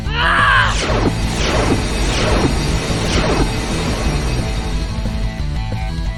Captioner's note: lasers blasting; woman shouting